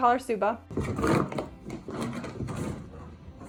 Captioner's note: footsteps